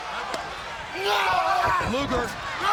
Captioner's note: Lex shouts